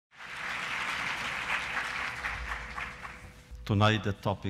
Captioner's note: applause